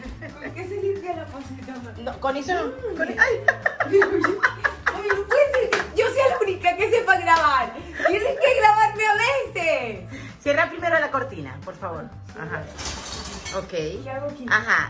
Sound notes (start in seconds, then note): 3.0 laughs